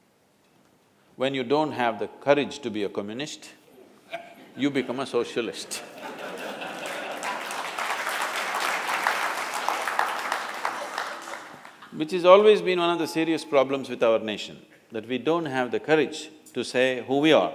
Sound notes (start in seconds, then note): 5.6 few Laugh; 5.6 laughter/Applause